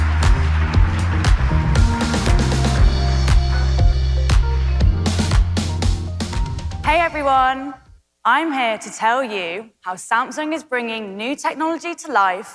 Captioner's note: applause